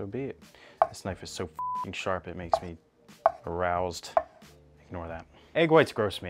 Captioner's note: beep